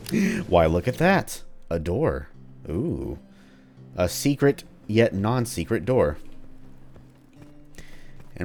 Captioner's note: le gasp